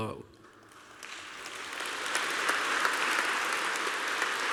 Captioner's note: applause